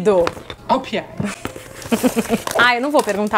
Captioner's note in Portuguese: risos